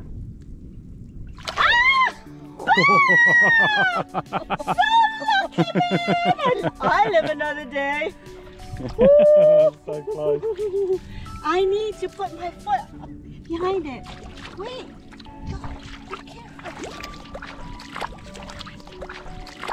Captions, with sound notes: [scream] so lucky, man! I live another day. so close I need to put my foot behind it wait